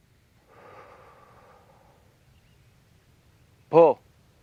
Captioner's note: exhales sharply